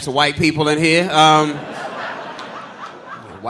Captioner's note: audience laughing